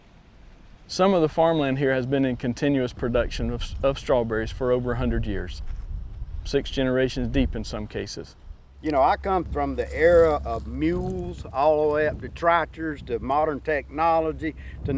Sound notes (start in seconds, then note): none